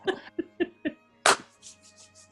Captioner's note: laughter; claps hand